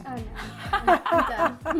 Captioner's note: laughing